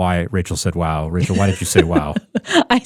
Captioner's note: laughing